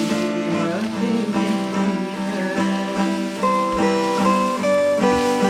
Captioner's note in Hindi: पक्षी चहकते हुए